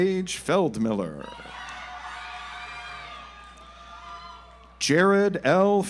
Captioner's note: audience applauds